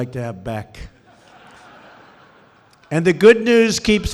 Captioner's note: laughter